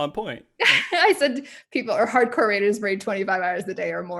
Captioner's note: laughs